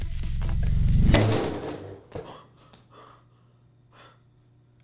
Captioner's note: electric hum; crash